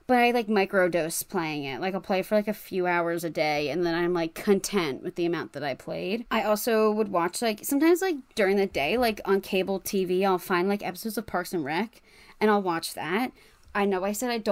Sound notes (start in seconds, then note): none